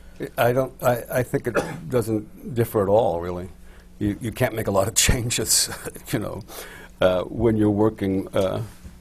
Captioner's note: laughs